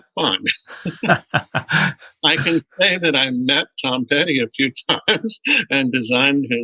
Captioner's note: laughter